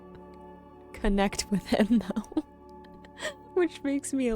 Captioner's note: chuckles